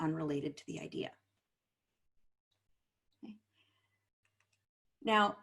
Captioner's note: silence